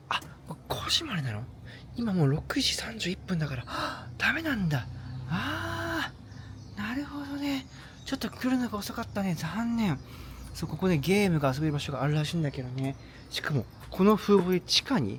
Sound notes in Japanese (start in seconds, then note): 5.1 ため息; 6.1 息をのむ音